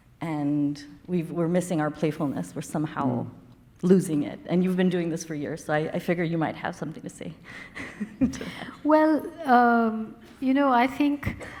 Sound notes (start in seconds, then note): 7.7 woman laughing